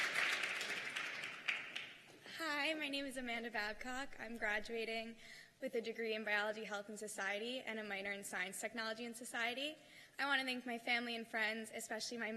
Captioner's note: cheers and applause